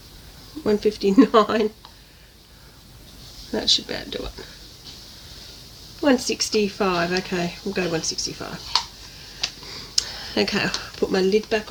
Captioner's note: laughs